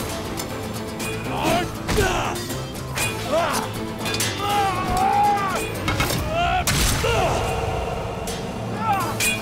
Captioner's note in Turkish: Dövüşme sesleri; Dövüşme sesleri